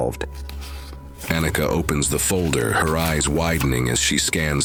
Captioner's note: sound of opening the file folder